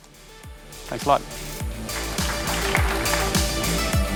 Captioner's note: applause; electric music